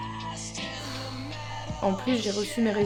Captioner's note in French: soupir